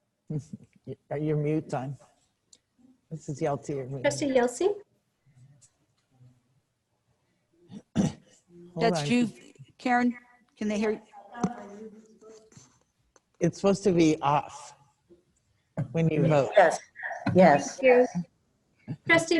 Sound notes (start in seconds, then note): 0.4 chuckles; 7.7 clears throat